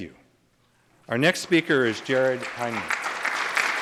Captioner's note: applause